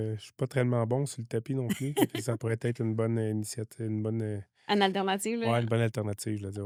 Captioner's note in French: rires